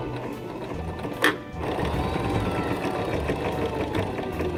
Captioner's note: whirring